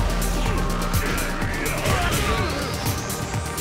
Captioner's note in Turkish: oyun sesleri